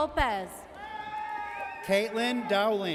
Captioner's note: audience cheers